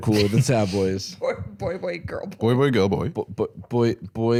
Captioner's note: laughing